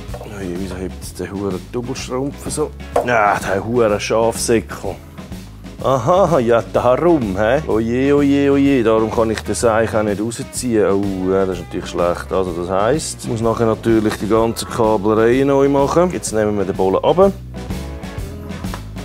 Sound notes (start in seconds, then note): 2.9 curses